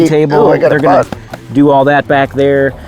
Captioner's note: hand slapping